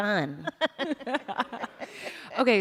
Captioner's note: laughter